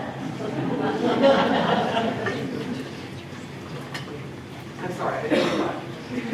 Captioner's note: laughter